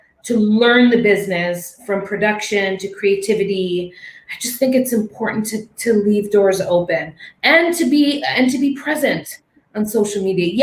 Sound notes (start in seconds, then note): none